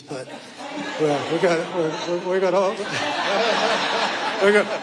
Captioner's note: audience laughing; stammering